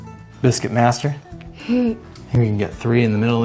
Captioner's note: giggles